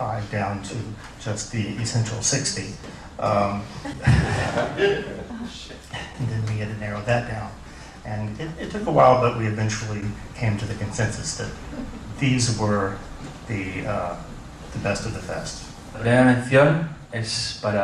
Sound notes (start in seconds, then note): 3.7 laughter